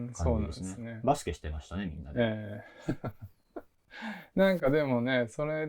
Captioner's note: laugh